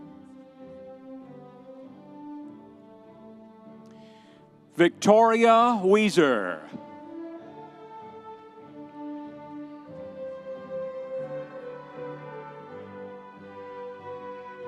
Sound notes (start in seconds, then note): 7.2 audience cheering; 8.8 sweeping classical music continues